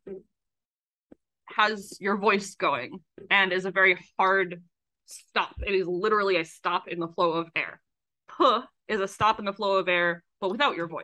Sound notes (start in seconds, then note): none